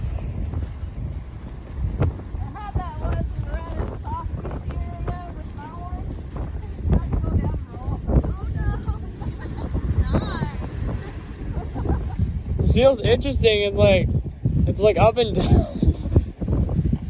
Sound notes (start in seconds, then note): 15.7 laughs